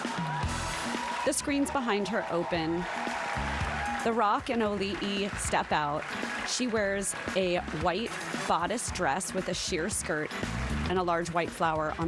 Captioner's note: applause